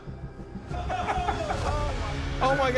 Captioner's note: laughter